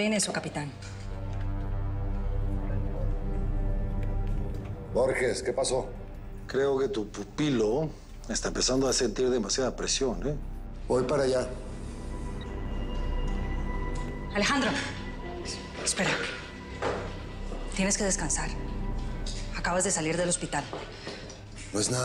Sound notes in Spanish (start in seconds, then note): none